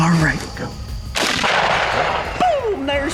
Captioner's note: gunshot